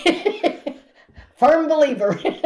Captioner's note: laughs